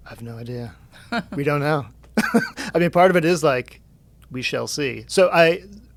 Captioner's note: laughs